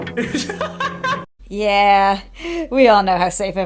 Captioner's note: laughs